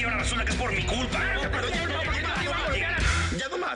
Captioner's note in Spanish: Discusión a gritos